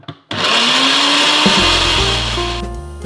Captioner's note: mincer buzzing; mellow music